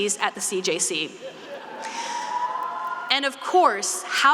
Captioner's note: students laughing and cheering